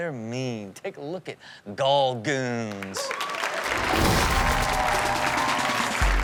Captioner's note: audience cheers